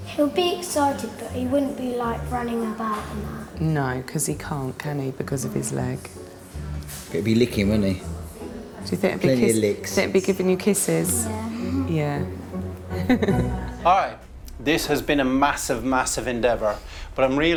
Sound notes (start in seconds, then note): 12.8 all laughing